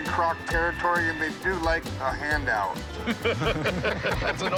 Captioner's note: laughter